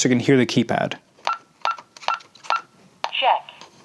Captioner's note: beeping sounds